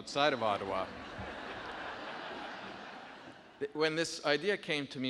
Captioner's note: audience laughing